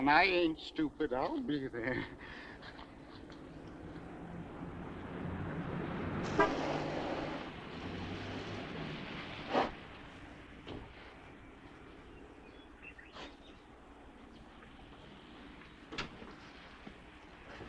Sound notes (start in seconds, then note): 4.2 car engine rumbling; 6.2 car horn honks